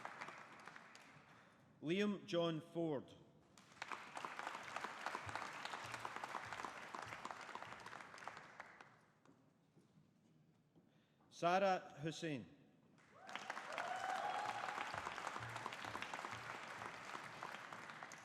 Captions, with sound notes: Liam John Forde. (AUDIENCE APPLAUDING) Saarah Hussain. (AUDIENCE APPLAUDING)